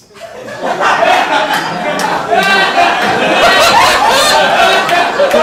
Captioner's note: audience laughing